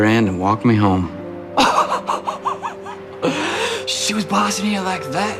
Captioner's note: men laughing quietly